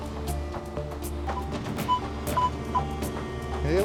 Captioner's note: beeping